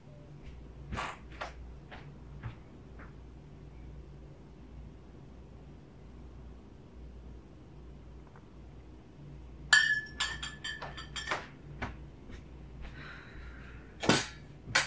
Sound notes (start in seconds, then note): 0.4 footsteps fading away; 3.5 silence; 9.8 bottles clinking, footsteps growing nearer